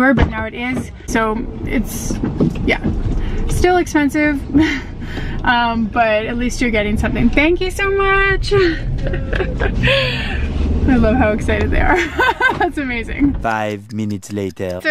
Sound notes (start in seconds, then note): 8.9 laughter; 11.9 laughter